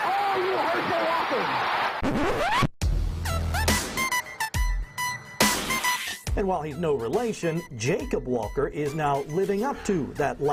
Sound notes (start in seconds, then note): 3.6 record needle zipping; 6.0 upbeat music